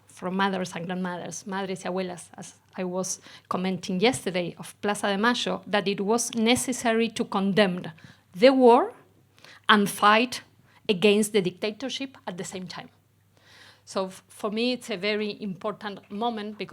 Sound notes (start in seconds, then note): 1.6 speaks Spanish